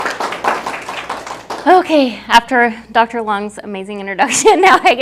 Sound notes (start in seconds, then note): 0.0 applause